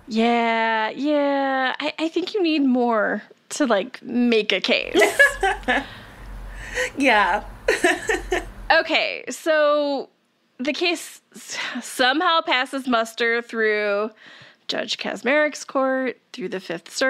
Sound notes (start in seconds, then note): 4.9 laughs